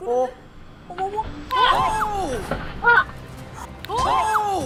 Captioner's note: whack! Whack!